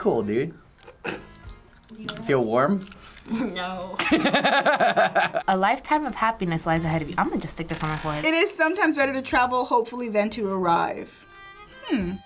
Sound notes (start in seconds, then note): 3.9 laughs